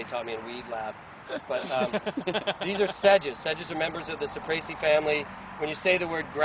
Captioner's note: laughter